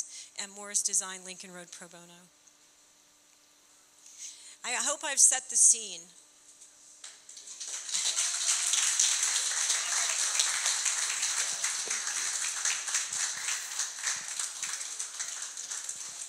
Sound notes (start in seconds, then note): 7.1 audience clapping